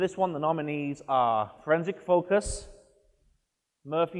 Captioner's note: none